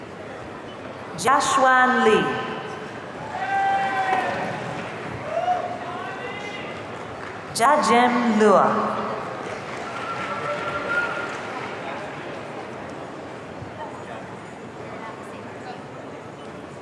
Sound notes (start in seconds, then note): 3.2 audience cheering; 9.4 audience cheering